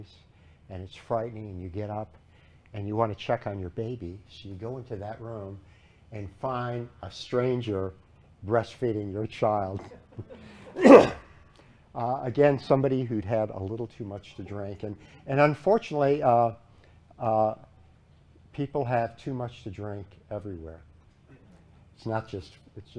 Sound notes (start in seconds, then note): 9.8 laughter